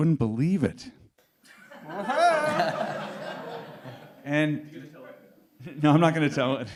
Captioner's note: laughter